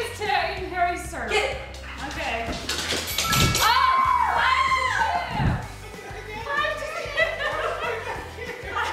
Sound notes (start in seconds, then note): 3.2 bell chime; 3.2 screaming; 5.3 excited chattering